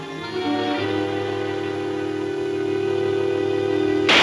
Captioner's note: gun firing